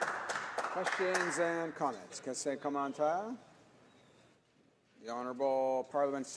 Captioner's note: some applause